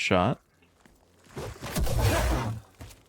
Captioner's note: gunshots